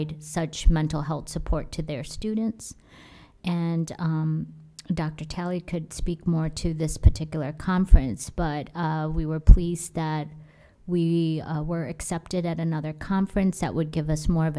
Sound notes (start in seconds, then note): none